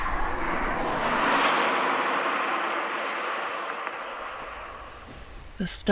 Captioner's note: car passing